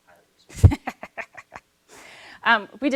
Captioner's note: laughing